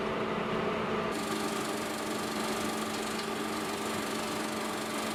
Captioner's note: film reel spins